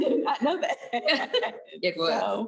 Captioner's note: laughs